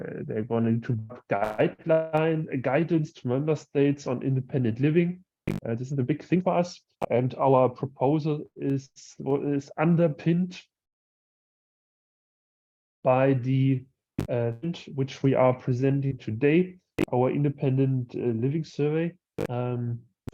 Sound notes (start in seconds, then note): 10.1 distorted audio